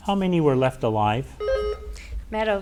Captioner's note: buzzer ringing